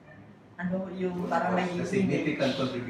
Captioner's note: foreign language; chatter